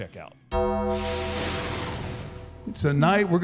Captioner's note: bell rings